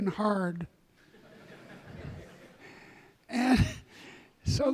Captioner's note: audience laughing